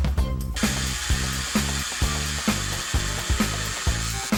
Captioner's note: motor buzzing